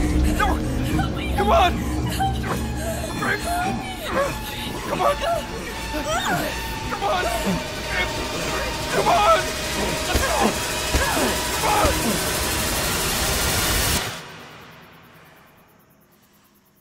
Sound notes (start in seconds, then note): 10.9 foot smashes